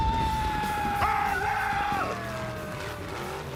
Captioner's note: screaming